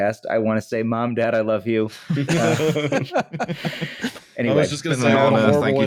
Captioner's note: laughter